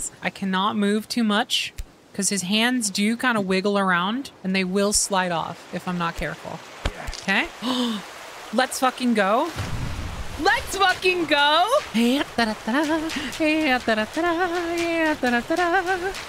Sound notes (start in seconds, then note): 7.6 gasp; 11.8 singing A Jovial Tune